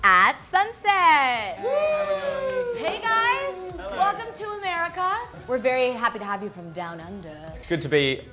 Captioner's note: clapping